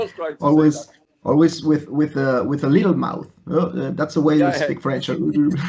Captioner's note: laughs; laughs